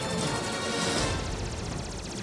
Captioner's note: explosions